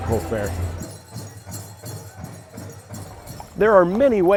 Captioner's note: drumbeat music; metal jingling